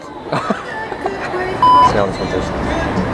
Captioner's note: laughter